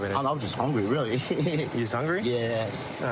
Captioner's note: laughing